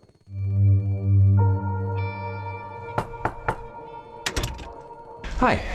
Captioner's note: tense music; knocking